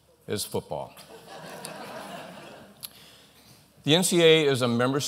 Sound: laughter

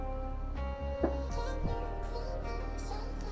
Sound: loud bang in background

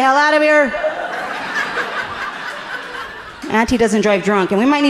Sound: audience laughing amusingly

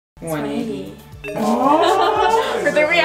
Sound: laughing

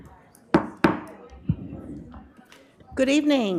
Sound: gavel knocking

